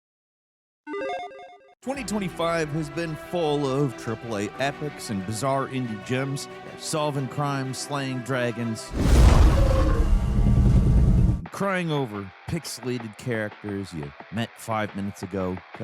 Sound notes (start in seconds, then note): 1.9 bright music; 8.9 creature rumbles